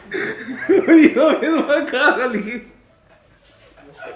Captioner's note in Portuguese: risos